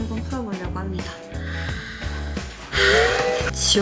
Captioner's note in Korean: 심호흡